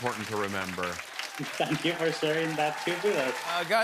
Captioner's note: laughs